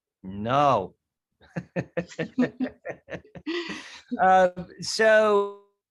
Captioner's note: laughter